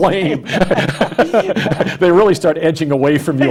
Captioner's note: laughs